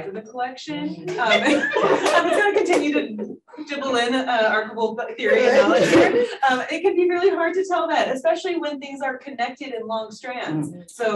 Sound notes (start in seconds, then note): 0.8 panelists laughing